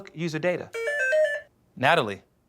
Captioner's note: beeping